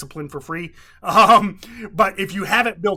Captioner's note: laughs